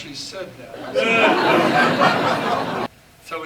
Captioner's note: laughter